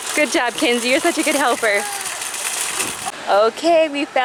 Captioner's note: laughing